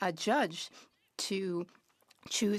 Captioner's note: speaking French